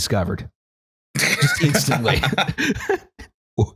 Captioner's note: laughter